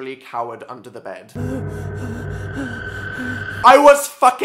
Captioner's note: panicked breathing